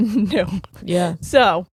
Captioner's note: chuckling